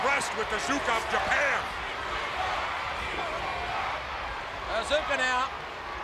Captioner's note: crowd cheering